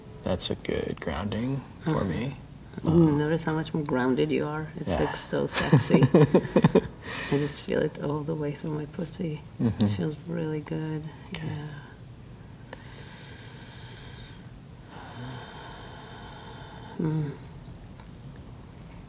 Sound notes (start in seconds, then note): 5.5 laughing; 13.1 therapist breathes deeply